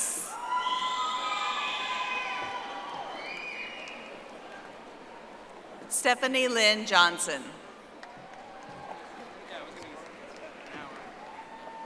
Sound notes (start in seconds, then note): 4.0 audience applauding; 11.6 audience applauding